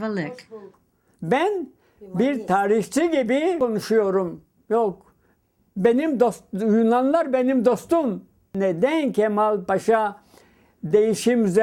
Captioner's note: speaking in Turkish